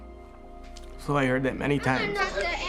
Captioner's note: voice trembling